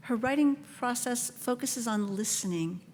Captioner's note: none